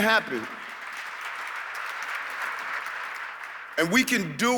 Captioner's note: audience clapping